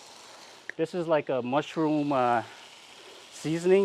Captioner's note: meat sizzling